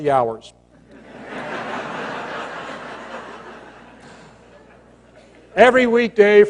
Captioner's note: laughter